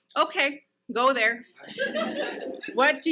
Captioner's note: audience laughs